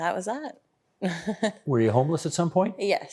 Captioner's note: chuckling